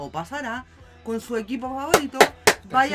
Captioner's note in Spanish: aplausos